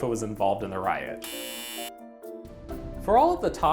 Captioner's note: buzzer